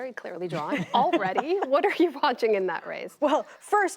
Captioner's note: laughter